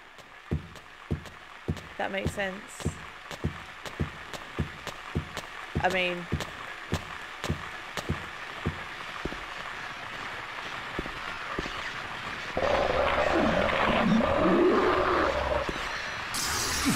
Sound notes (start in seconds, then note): 7.3 radio static builds; 11.6 spraying noise; 12.6 garbled creature noise